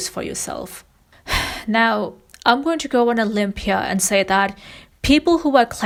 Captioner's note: sighs